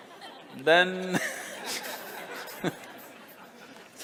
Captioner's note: laughter